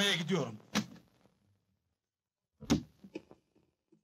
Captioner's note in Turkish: arabanin kapisini açilip kapanma sesi̇